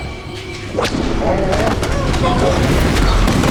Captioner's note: growls